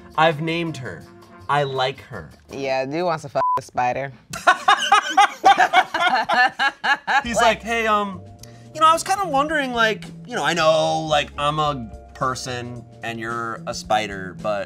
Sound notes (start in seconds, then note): 3.4 beep